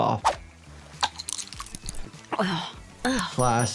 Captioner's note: pills rattle